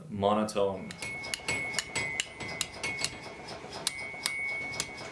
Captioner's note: hammers tapping